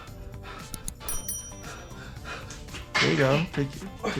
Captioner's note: IShowSpeed panting